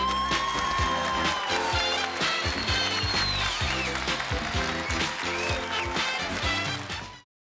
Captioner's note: cheering and applause